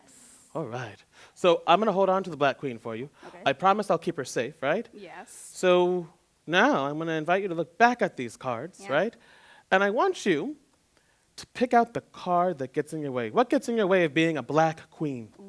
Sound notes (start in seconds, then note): none